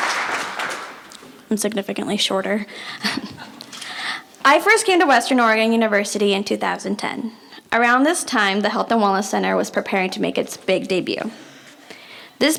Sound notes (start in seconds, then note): 0.0 applause; 3.7 laughs